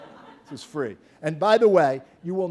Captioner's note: laughter